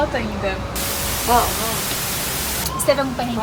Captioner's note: TV noise